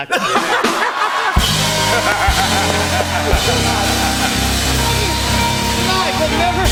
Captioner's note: laughter and applause